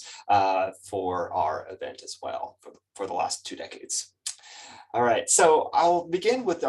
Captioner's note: lips smack